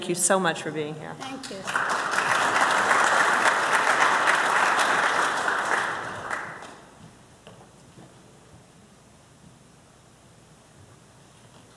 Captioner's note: applause